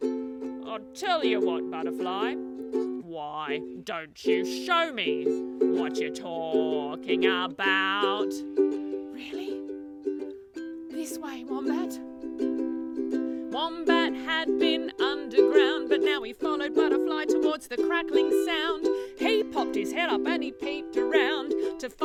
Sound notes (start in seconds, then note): 2.8 sings; 8.8 speaks quietly; 12.8 sings